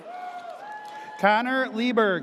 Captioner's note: audience cheers